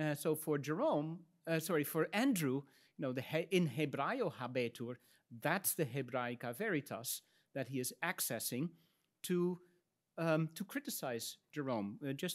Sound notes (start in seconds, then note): 3.7 speaks in Latin